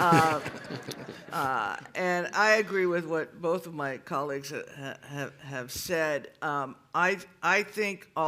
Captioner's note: laughter